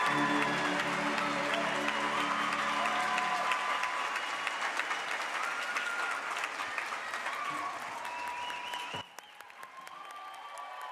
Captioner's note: applause